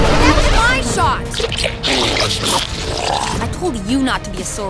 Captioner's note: 2Bells growling